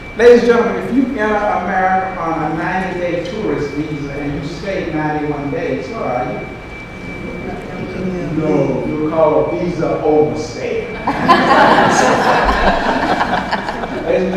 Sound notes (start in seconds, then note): 7.0 audience responds; 10.9 audience laughs